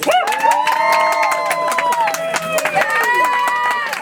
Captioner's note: audience applauds